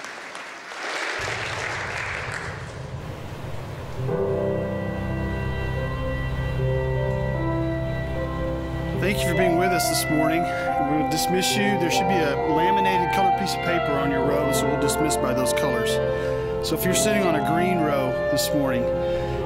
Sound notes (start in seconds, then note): 2.6 applause